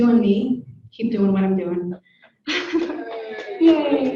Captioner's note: laughs; audience cheers